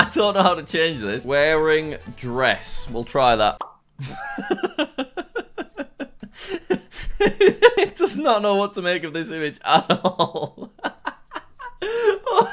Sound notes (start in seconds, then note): 4.0 laughs; 9.8 laughs